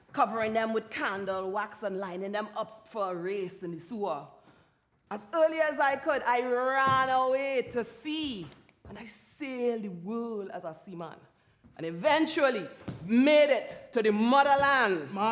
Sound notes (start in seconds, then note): none